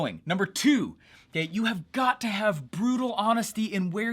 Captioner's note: none